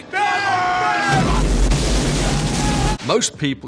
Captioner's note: explosion booms